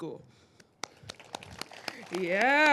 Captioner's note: all applauding